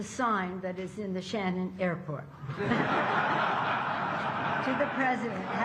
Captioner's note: laughter